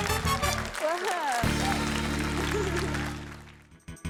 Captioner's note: chuckles